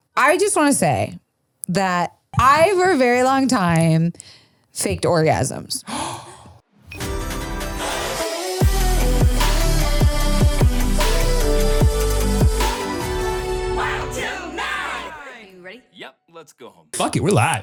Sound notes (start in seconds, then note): 5.9 gasps; 7.0 upbeat music